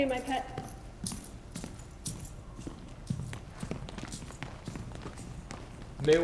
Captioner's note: footsteps exiting with keys jingling